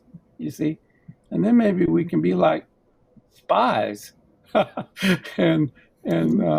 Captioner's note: laughs